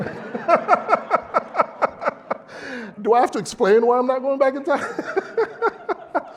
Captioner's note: laugh